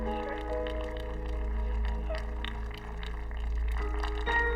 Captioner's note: audience applauding